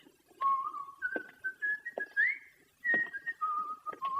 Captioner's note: Jock whistles